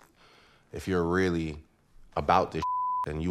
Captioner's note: beep